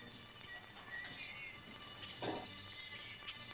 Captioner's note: birds singing